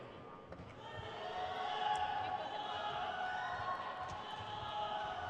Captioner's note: crowd cheers